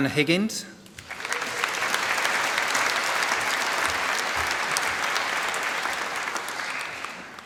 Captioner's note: applause